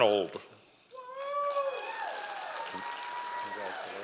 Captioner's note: audience applause